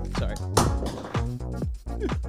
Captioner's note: bb gun magazine clattering